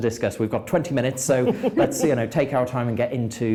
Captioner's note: laughing